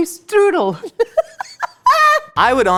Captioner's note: laughing